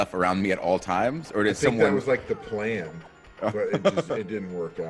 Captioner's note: laugh